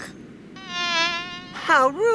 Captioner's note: fly buzzing